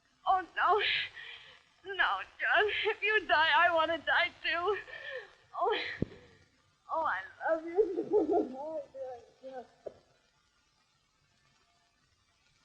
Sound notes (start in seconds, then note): 7.5 crying